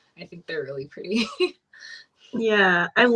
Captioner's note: laughs